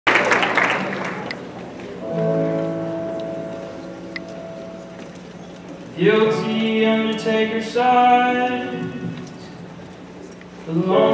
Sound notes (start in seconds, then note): 0.0 audience clapping; 2.0 peaceful music